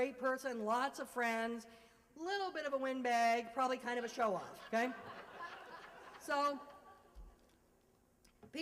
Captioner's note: laughter